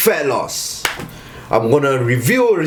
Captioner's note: claps